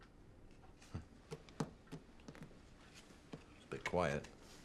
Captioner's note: Rob chuckles